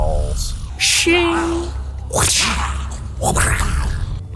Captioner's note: epic Sound Effects